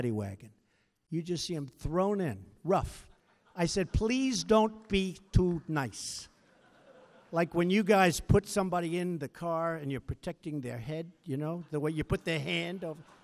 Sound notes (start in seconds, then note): 5.2 laughter